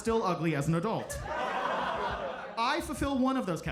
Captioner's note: audience laughs